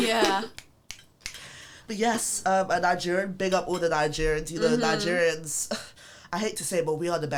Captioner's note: clicks fingers